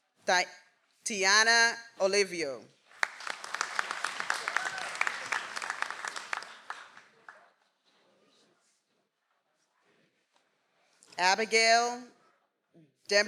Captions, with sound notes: - Tiana. Oliviof. (audience applauds) - Abigail Demreville.